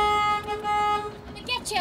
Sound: horn honking

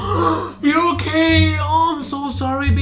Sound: sharp inhale

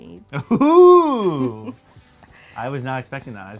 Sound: woman laughs; laughing

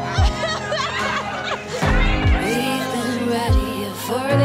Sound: soft music; laughing

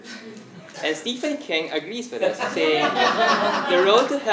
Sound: laugh

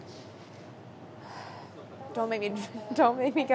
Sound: sighs

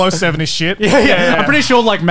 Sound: laughing

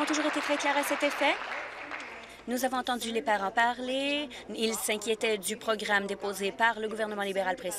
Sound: applause

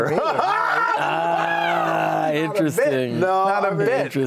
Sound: laughing

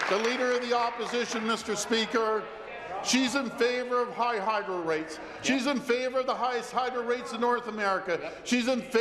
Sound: applause

